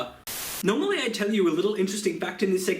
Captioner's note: Static